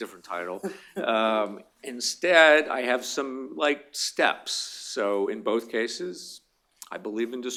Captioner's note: laughter